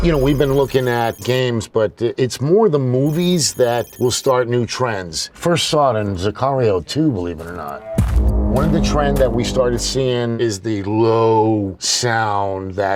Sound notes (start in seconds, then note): 0.0 eerie sound; 3.0 hacking computer sound; 7.8 deep beat sound